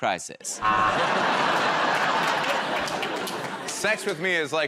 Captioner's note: laughter